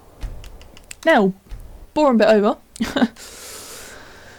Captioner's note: laugh